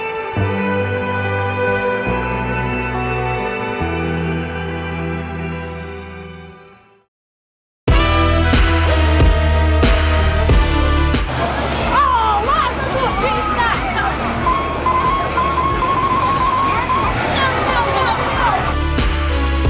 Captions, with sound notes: (ethereal music) (jazzy music) - Oh! Why'd you do a pit stop? (machine beeps)